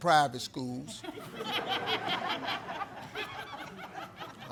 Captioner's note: audience laughs